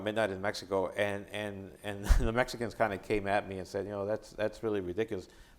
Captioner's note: chuckling